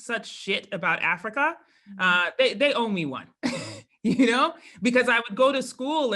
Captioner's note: laugh